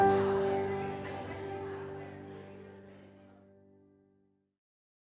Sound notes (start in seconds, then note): 0.0 people murmuring